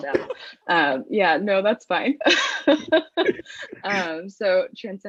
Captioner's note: laughs